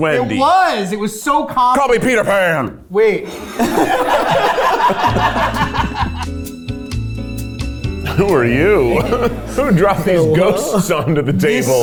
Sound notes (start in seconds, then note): 3.2 all laughing; 4.7 gentle music; 8.6 laughing